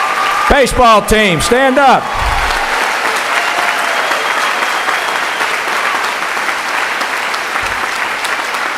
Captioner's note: cheering